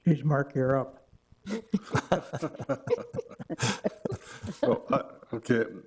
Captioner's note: all laughing